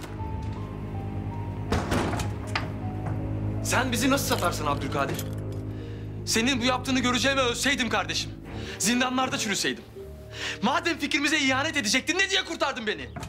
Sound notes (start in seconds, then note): 1.3 cover open sound